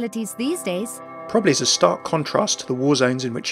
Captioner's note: voiceover